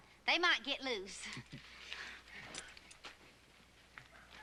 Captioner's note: laughs